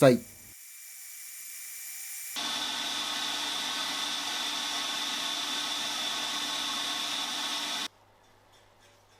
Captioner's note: working sound